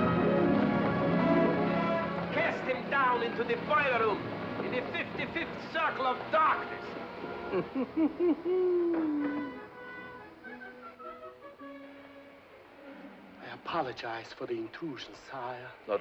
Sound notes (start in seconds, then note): 7.4 chuckles; 9.1 whimsical music